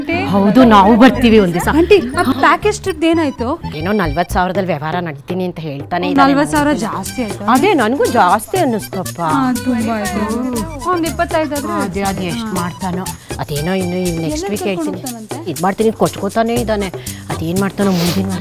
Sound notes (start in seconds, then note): 0.0 women chatter about package tours